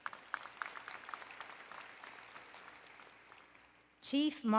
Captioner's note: applause